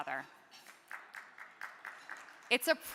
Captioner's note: crowd clapping